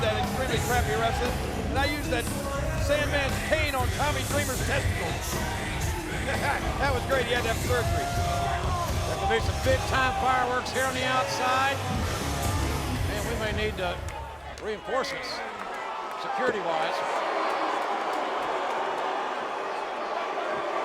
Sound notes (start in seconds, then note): 17.1 spectators cheering